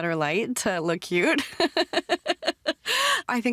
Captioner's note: laughs